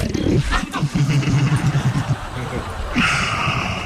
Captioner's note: laughter